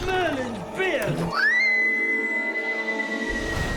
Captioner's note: screams